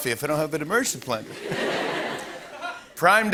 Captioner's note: laughter